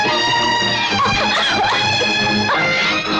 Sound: coughs

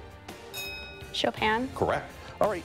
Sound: ding

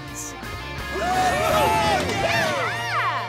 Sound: cheering

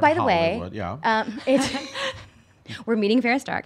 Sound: laughing

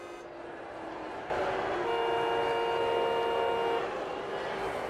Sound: limo honking

